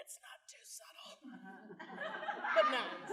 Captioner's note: laughter